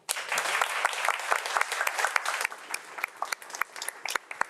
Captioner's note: audience applauds